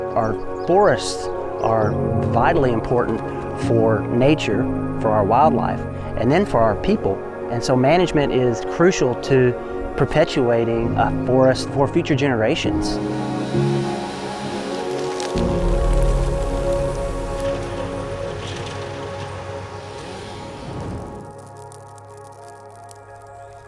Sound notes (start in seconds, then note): 12.8 chainsaw revving; 14.8 trees bustling; 19.2 machine revving; 20.8 fire cracking